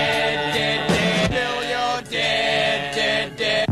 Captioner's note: record skipping